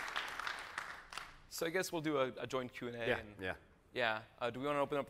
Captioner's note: applause